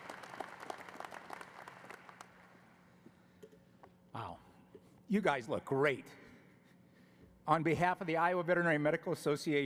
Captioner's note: applause